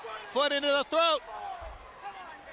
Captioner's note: crowd chatter